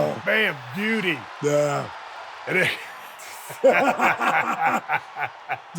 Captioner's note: both laughing